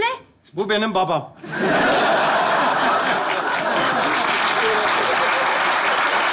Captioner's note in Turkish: Kahkaha ve alkış sesleri